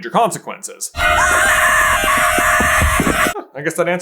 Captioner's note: screaming